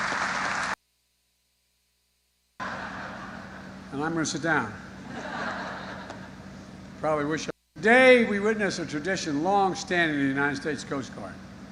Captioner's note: applause